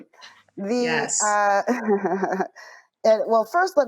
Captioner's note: chuckles